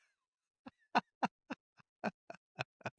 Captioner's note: laughing